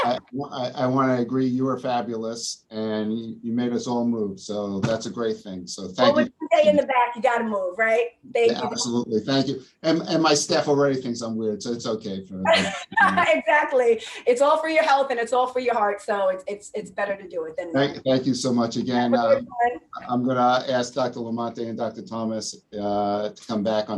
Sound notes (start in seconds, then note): 13.2 laughs